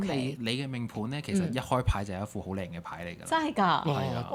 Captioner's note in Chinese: 清喉嚨